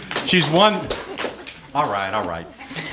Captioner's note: applause